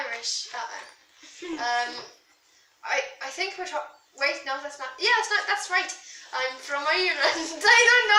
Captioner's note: bad Irish accent